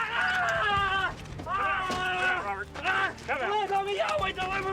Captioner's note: screaming